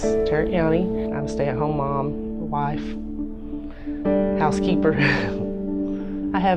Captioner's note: laughs